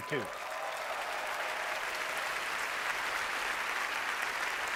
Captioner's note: audience applauding